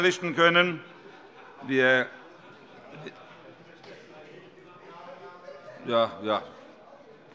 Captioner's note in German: Vereinzelte Heiterkeit FDP